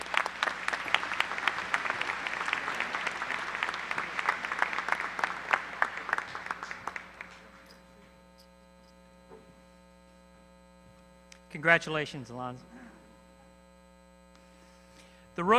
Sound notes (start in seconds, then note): 4.5 applause